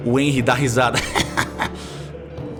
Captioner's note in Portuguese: Risada